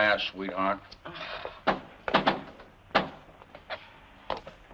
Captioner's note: knocking at door